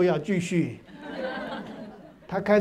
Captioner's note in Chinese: 哈哈哈